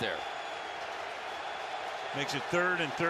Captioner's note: crowd cheers